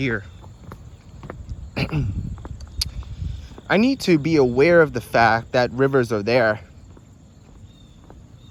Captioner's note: clears throat